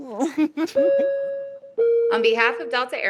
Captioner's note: women laughing; flight alarm dinging